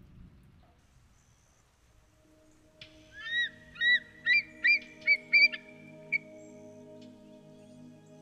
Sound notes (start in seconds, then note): 1.9 soft gentle music; 3.1 bird squawking